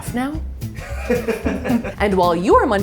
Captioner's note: laughing